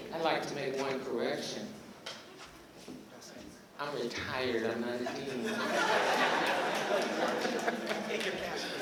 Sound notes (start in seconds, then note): 5.0 laughter